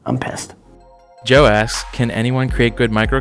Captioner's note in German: Voice-over